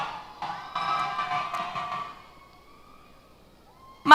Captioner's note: cheers